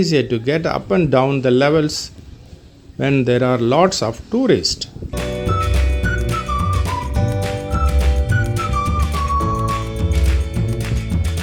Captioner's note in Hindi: तालियाँ